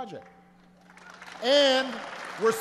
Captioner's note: applause